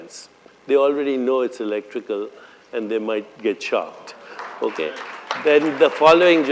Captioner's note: applause